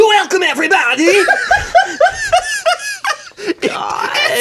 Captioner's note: laughs